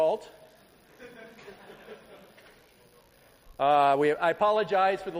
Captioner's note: laughter